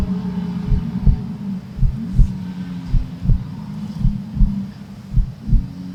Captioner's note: heart beating; buffalo bellowing